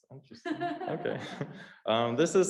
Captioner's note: laughs